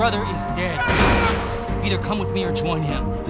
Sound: crash

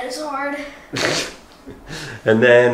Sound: chuckles

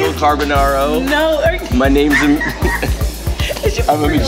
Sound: laughs

